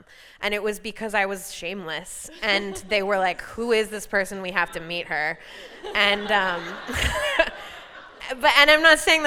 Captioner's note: laughter